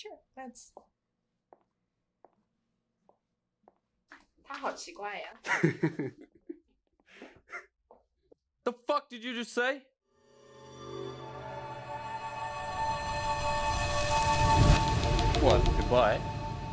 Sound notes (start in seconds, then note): 1.4 footsteps on tiled floor; 5.0 Mandarin language; 5.4 Lee laughs